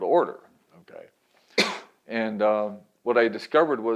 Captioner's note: coughs